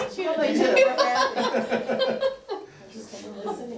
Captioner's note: laughter